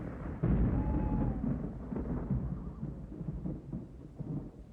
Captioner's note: thunder Rumbling